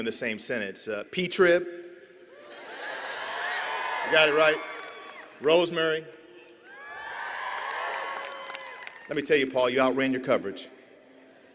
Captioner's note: applause